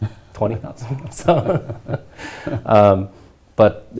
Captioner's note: both laugh